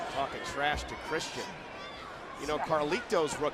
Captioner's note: crowd chatter